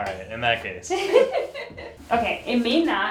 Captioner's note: laughing